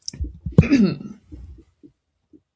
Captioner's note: clears throat